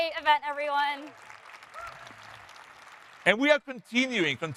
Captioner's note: audience applauding